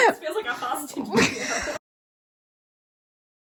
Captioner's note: laughing